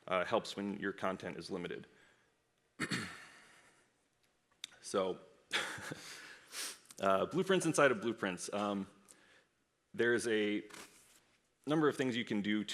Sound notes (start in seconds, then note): 5.6 laughs